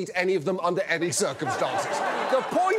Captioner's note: laughter